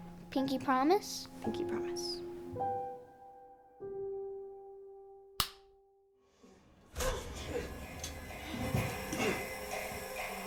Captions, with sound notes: - Pinky promise? - Pinky promise. [click] [TV sounds]